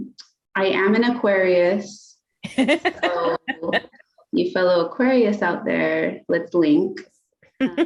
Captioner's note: laughter